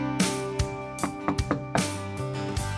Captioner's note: knock on door